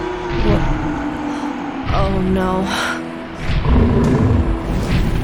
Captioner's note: dragon roar